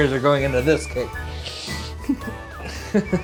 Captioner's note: sniffles as wipes face; laughter